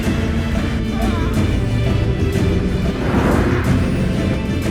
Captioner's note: Tariq grunts